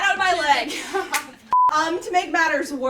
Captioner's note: everyone laughs